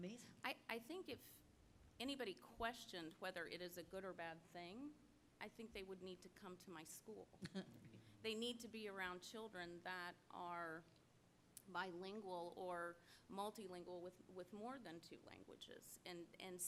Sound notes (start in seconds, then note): 7.4 laugh